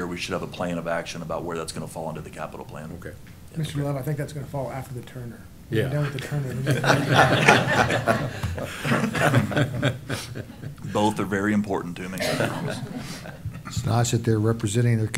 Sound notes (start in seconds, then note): 6.4 laughter